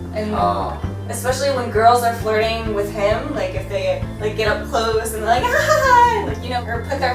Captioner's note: giggle